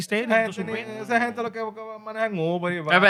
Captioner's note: non-english Speech